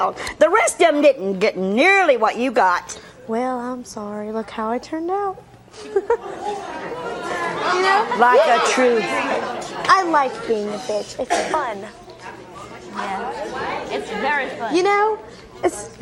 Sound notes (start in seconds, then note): 5.7 laughs; 6.2 audience murmuring; 7.9 overlapping chatter; 12.8 audience murmuring